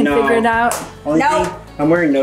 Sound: hands slap together

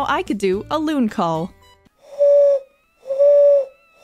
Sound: loon calls

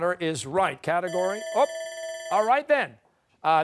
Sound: bell rings

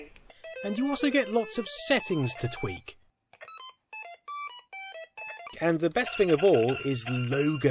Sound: bleepy sounds continue

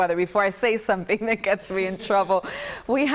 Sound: laughter

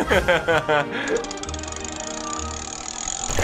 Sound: laughs

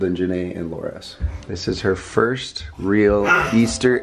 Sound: little girl grunts

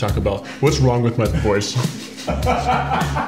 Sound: deep voice; laughter

